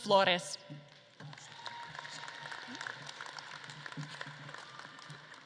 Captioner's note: audience claps and cheers